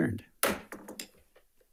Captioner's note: gavel taps